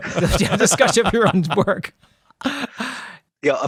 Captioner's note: both laugh